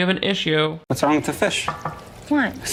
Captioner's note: knocks